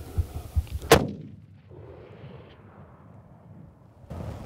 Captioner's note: gun firing